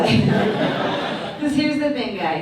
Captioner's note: audience laughs